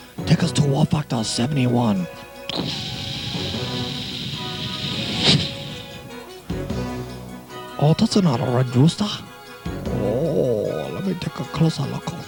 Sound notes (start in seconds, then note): 2.5 pshhhhhsssshhhwoosh